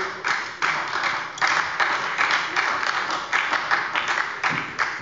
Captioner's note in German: Beifall bei der SPD